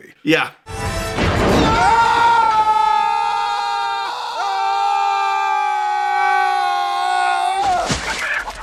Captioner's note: masculine yelling